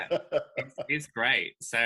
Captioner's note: laughing